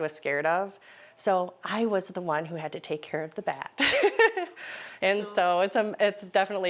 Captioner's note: laughs